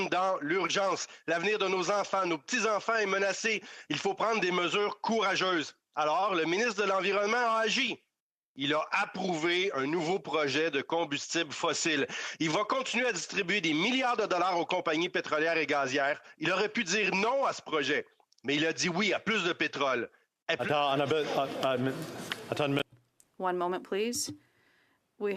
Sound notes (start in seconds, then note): 0.2 speaking French